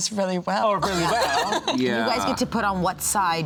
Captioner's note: laughs